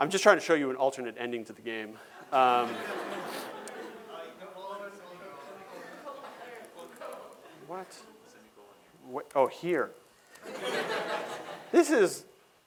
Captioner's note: laughter